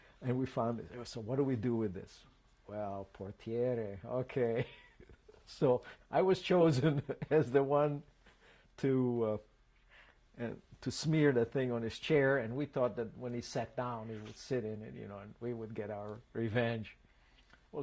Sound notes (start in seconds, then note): 4.6 laughs